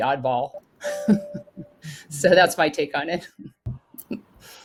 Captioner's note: laugh